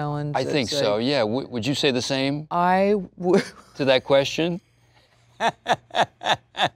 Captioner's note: laughs